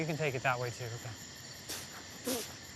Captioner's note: spitting